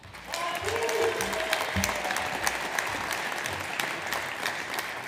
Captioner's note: audience applauds